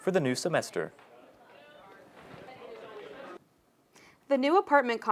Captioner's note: crowd chatters